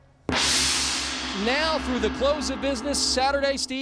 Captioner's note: gong ringing